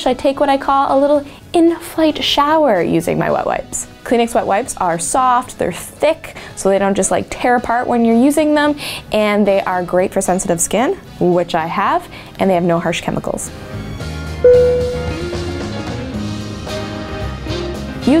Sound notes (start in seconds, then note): 14.4 dinging; 14.4 upbeat music